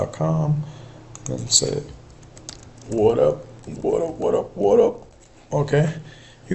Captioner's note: typing